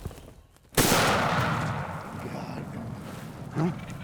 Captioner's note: gun fires